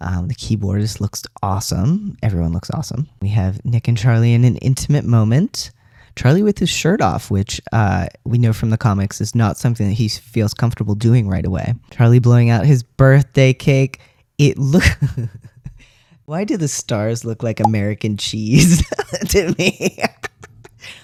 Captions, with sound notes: The keyboardist looks awesome. Everyone looks awesome. We have Nick and Charlie in an intimate moment. Charlie with his shirt off, which, we know from the comics, is not something that he feels comfortable doing right away. Charlie blowing out his birthday cake. It look - [laughter] Why do the stars look like American cheese to me? [laugh]